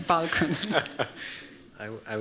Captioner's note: laughter